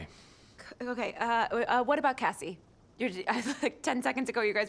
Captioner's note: chuckles